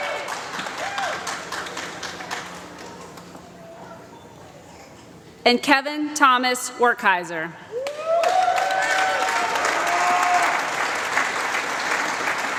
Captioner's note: applause